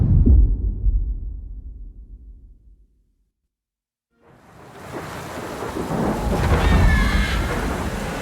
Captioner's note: dramatic sound